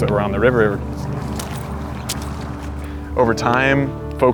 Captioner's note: splashing water